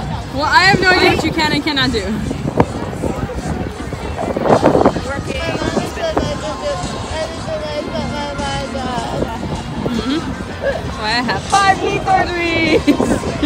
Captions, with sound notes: Well, I have no idea what you can and cannot do *little kid voice* My mommy says I can do anything I set my mind on